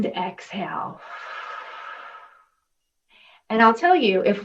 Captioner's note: exhaling